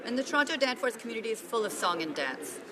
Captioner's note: speaking French